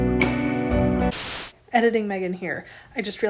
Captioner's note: static